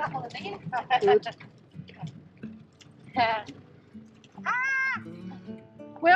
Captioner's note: squeals